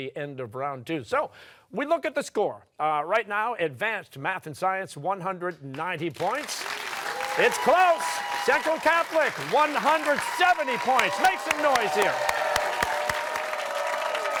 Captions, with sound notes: So we look at the score. Right now, Advanced Math & Science, 190 points. It's close! Central Catholic, 170 points. Make some noise here! (cheering)